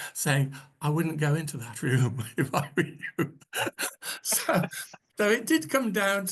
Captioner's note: laughs